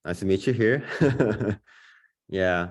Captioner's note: laughter